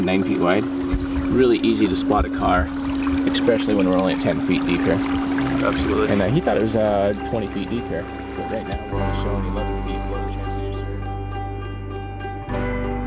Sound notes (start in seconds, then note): 2.3 water splashing; 5.7 upbeat music; 10.2 upbeat music